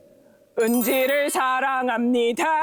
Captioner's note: composition complete sound effect